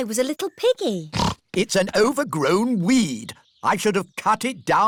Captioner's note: snorts